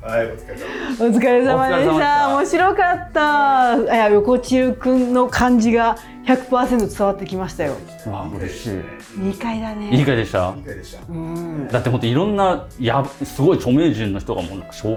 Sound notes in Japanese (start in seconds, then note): 1.5 笑い